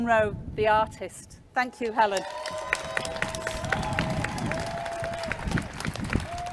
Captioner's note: clapping and cheering